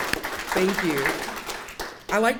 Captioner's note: audience applauding